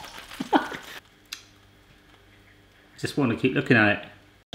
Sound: laughs

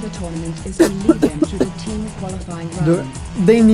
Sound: coughs a little

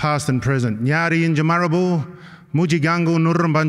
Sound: non-english speech

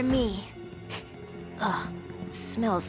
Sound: sniffs

